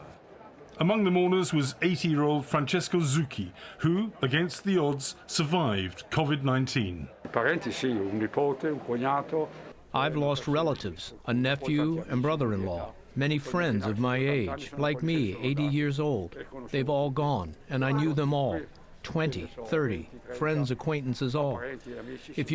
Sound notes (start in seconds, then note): 9.3 through translator